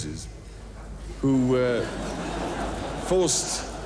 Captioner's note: audience laughing